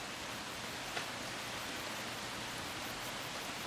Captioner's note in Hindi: बारिश हो रही है